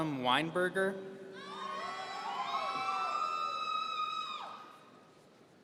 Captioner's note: audience cheering